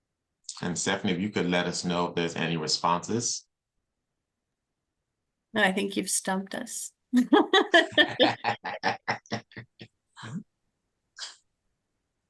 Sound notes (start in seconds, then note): 7.4 laughing